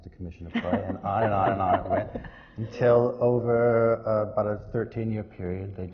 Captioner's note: laughs